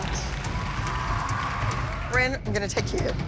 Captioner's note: cheering